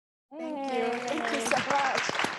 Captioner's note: audience applauding